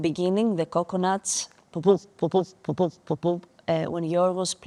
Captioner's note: imitates coconuts thumping